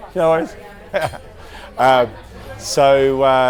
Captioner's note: laughs